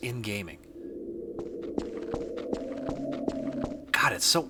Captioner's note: effortlessly creepy low wind; effortlessly creepy footsteps